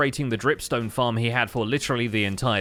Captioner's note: none